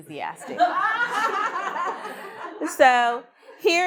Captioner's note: all laughing